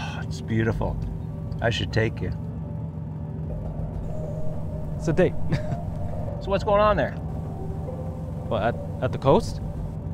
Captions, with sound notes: - Oh it's beautiful. I should take you. - It's a date. (laughs) - So what's going on there? - What at, at the coast?